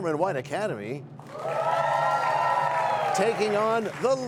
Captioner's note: cheers and applause